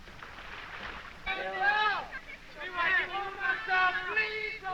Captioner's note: boys exclaiming